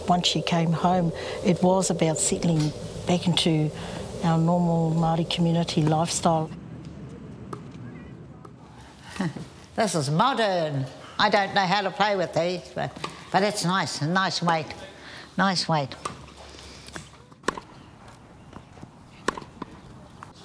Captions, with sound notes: - Once she came home, it was about settling back into our normal Māori community lifestyle. (laughs) - This is modern, I don't know how to play with these but it's nice, a nice weight. Nice weight. (ball sounds)